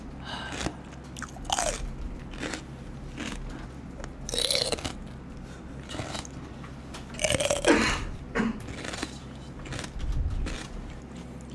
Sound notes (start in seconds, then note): 0.4 crunch crunch; 4.1 pretty good celery sound